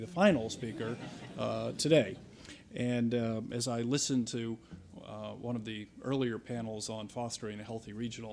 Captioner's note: chuckles